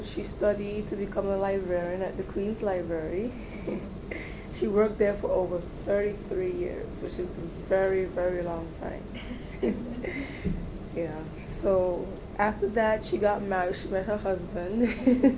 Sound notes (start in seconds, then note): 9.2 chuckles; 14.6 laughs